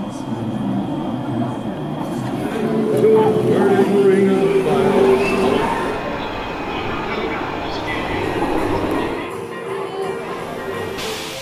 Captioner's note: vrrrrrrrrr